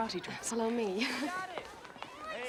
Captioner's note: laughs